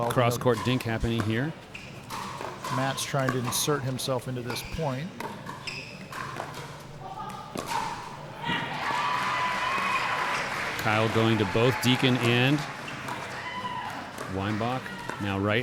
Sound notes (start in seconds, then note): 8.4 cheering